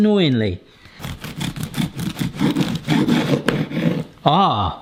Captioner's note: bread crunching